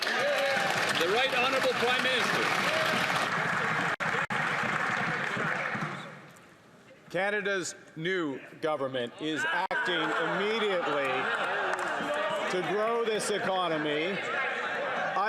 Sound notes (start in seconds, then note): 5.8 some Applause